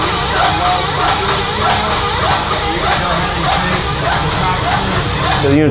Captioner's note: sprayer drowns out man